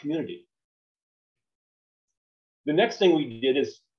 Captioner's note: silence